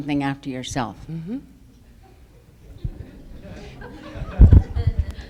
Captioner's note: audience laughs